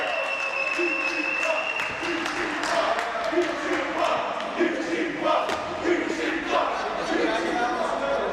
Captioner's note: applause